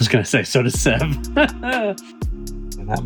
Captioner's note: laughing